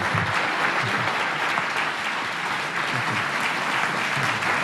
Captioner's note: applause